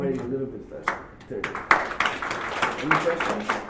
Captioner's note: applause